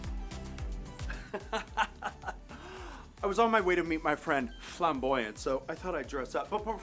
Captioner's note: laughs